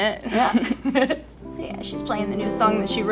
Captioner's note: both chuckle